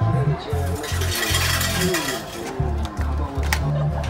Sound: machine rattles

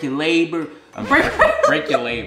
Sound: laughing

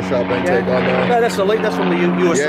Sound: plane engine drowns out talking

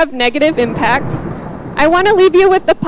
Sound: thunder booming

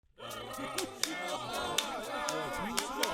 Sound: chatter chatter

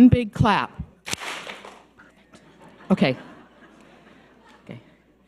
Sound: audience claps

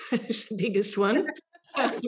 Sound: laughs

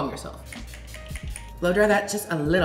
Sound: spraying

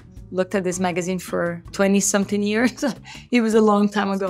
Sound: chuckles

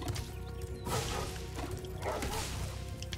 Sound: dogs bark; eerie music

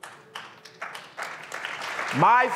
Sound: audience claps

